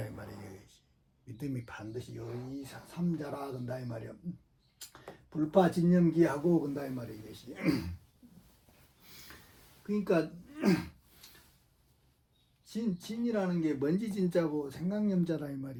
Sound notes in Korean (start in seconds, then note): 7.6 목을 가다듬음